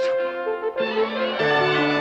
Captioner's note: crowd gasping